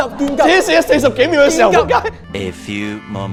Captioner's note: peeing